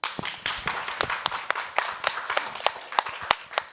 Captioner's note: all clapping